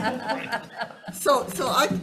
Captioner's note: laughing